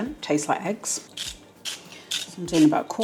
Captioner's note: salt mill grinding